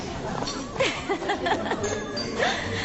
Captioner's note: يضحك